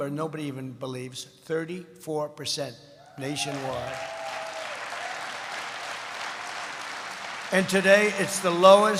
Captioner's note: applause